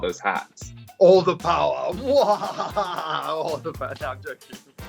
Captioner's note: laughs evilly